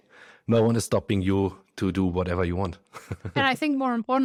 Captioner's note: laughs